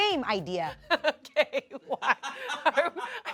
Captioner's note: laughs